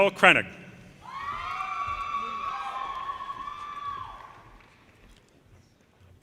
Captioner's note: audience cheers and applause